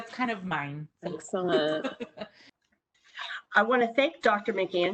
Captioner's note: laughing